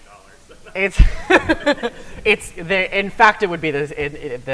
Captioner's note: laughs